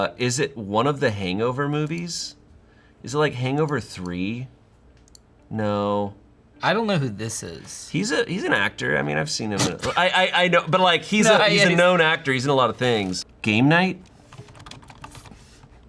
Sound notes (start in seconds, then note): 11.2 laughs